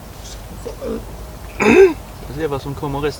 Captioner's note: frog in throat